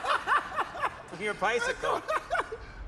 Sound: laughing

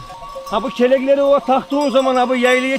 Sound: bell

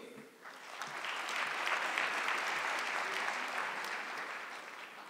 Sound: audience clapping

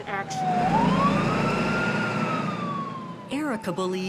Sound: siren wailing

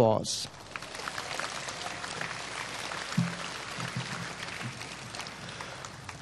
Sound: applause

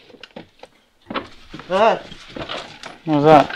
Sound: knock

